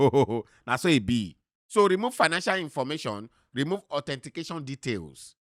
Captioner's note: laughing